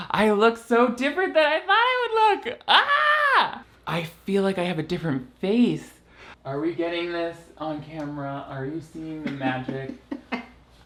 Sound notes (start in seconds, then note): 2.6 squeals; 9.2 laughs